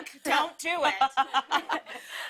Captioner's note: both laugh